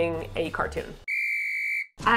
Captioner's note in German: schon wieder die Trillerpfeife